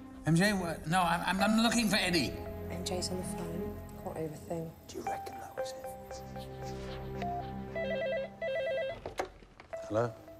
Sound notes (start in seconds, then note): 7.6 phone ringing